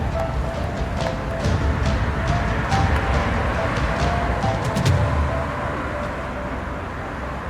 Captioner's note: dramatic music continues; air whooshing